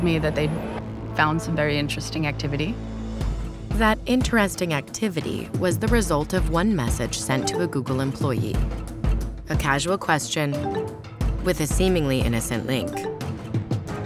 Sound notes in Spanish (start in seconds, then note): 10.5 sonido de mensajes